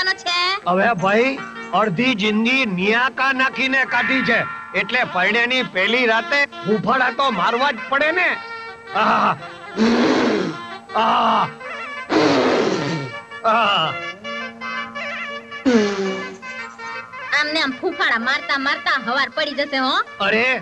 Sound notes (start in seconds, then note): 8.7 blows Air